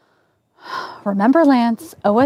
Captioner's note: breathing deeply and exhaling